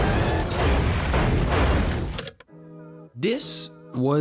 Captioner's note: gunshots; crashing